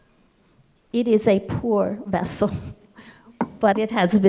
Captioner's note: laughs